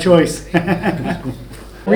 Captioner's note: chuckling